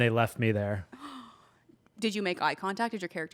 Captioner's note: gasps